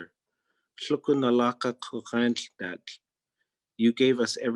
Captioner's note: speaking in Native Language